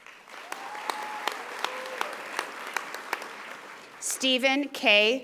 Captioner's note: audience applauding